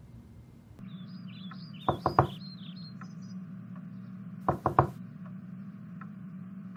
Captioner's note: knock on door